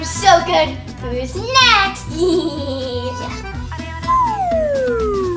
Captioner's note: evil laugh